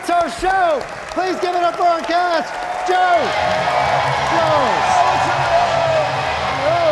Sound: audience cheering

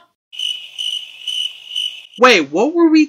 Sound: crickets chirping

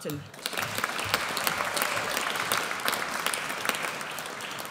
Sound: audience applauds

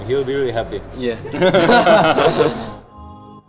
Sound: laugh

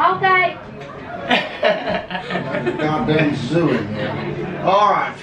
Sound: weird laugh

